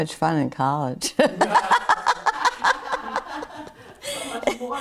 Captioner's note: everyone laughs